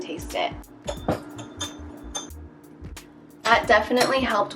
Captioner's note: fork hitting glass